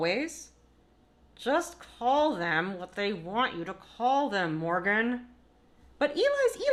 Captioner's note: through clenched teeth